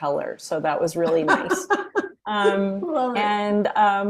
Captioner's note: laughing